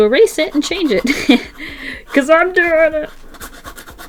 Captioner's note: laughs